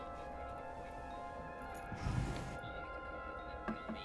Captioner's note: noise from earpiece